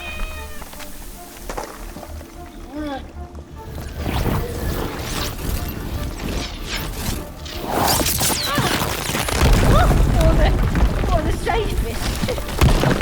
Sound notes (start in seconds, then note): 0.0 cat meows; 2.7 grunting; 3.8 whooshing; 7.5 zapping continues; 9.6 loud clattering